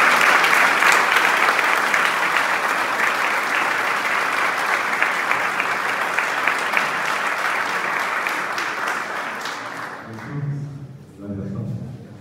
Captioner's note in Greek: χειροκρότημα